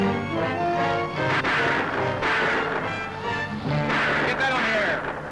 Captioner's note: gun firing